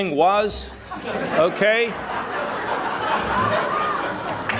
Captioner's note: audience laughing